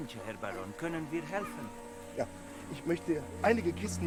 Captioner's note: Pferd wiehert